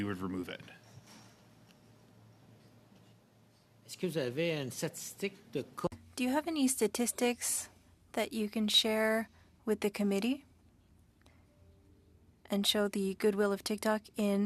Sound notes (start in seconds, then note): 7.7 speaking French